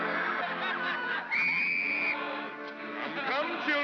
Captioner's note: whistle blows